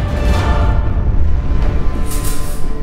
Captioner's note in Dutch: metaal rammelt